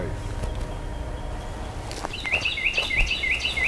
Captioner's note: birds chirping